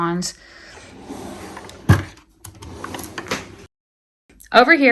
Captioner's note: drawer sliding